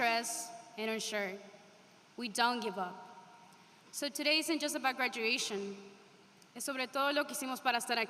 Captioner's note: speaking spanish